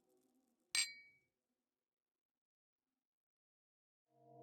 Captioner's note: glass clanks